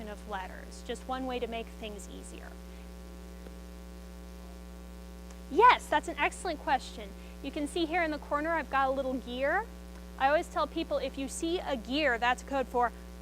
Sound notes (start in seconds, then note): 3.1 student speaks faintly